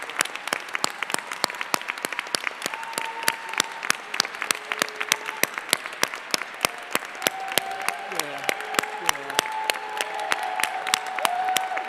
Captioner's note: applause